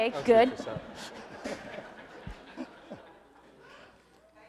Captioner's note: laughing